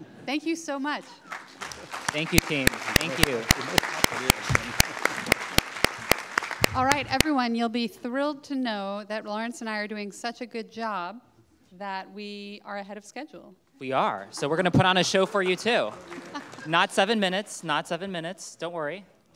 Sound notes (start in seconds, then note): 1.0 audience clapping; 14.3 audience clapping; 16.0 laughing